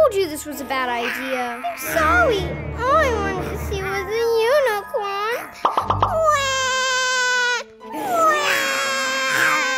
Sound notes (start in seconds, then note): 7.9 wails